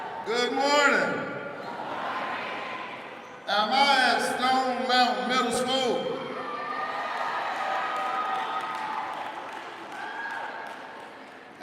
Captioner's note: applause